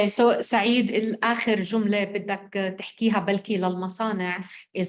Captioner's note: speaking arabic